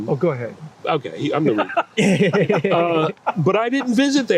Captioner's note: laughing